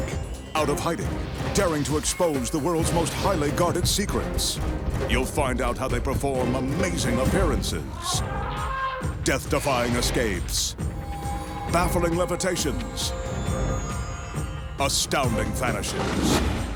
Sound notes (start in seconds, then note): 7.9 elephant squeaking